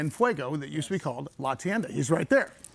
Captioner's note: speaks in foreign language